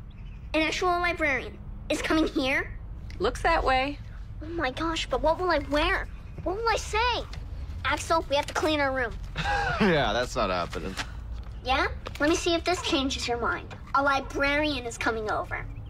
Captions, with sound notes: An actual librarian is coming here? Looks that way. Oh my gosh, but what will I wear? What will I say? Axl, we have to clean our room. *laughs* Yeah, that's not happening. Let me see if this changes your mind. A librarian is coming over.